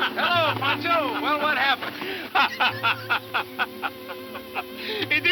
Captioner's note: Rancho laughing